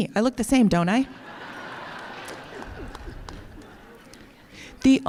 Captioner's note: laughter